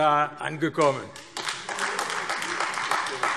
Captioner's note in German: Beifall AfD